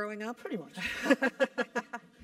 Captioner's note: laugh